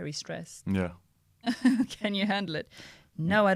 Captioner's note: laughter